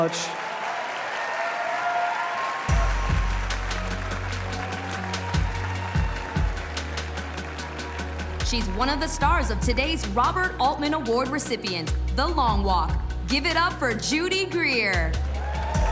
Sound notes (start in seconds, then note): 6.5 cheers and applause